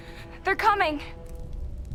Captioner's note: none